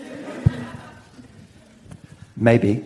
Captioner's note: audience laughs